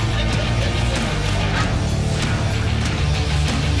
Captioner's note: patrons laughing; intense music